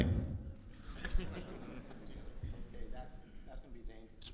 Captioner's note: audience laughs